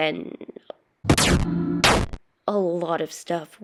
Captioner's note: crunch